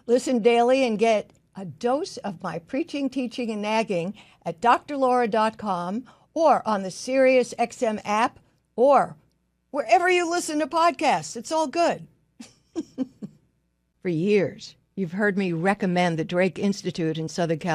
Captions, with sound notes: Listen daily and get a dose of my preaching, teaching and nagging at drlaura.com or on the SiriusXM app, or wherever you listen to podcasts. It's all good. (laughs) For years, you've heard me recommend the Drake Institute in Southern